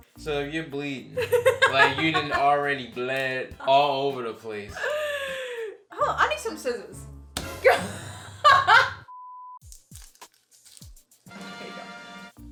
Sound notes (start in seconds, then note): 7.7 laughs; 11.3 fanfare